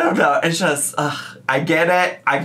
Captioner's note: groans